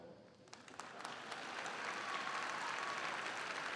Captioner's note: crowd clapping